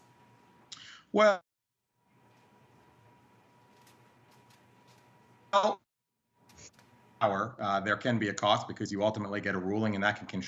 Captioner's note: audio gap